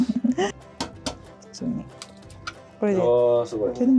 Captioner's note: egg cracking in progress